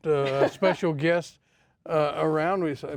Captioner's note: laughs